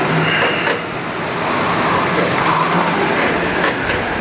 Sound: machine hums

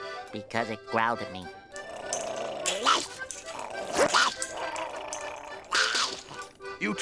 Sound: growling

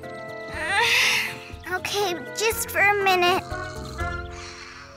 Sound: groans; both snoring

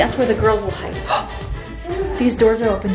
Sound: gasp

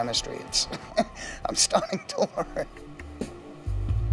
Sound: laughing

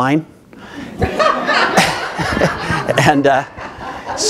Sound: audience laughing

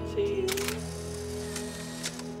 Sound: photograph snaps

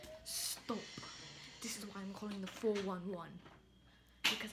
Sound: British accent

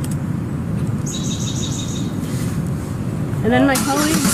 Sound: chirping

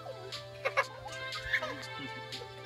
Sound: laughing

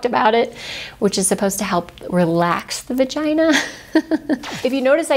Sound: laughs

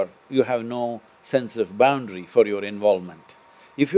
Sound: none

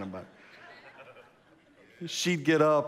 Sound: congregation laughs

